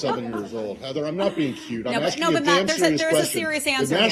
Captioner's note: laughter